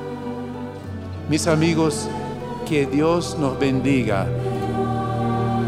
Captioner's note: speaking Spanish